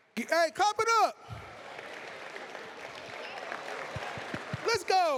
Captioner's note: applause